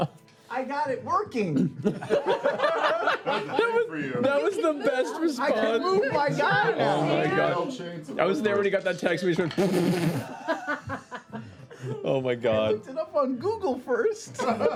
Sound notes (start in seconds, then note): 1.6 laughter; 9.6 sputtering laughing